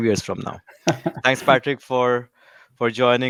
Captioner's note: chuckles